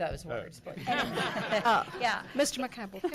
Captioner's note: laughing